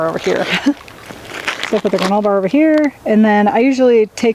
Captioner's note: laughing